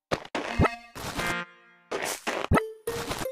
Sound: footsteps

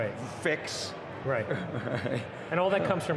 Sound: chuckles

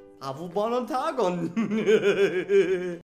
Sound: evil Esperanto laugh

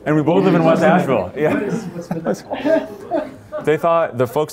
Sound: laughter

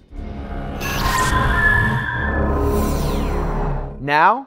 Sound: sound Effects

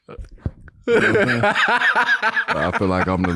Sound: Daniel laughing

